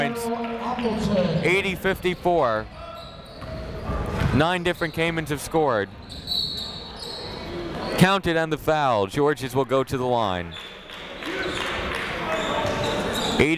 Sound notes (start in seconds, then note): 6.0 whistle; 10.5 clapping